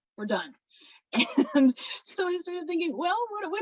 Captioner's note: laughs